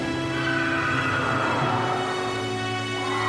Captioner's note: screeching